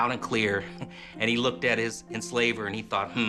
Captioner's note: laughs